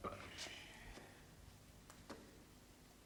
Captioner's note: he belches